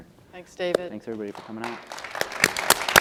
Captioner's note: applause